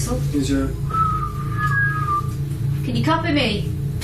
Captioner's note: whistling